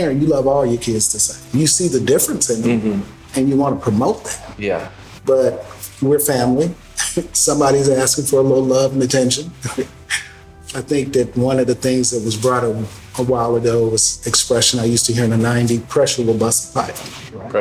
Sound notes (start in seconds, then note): 6.7 laughs; 9.7 laughs